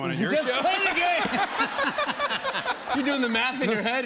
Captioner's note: laughter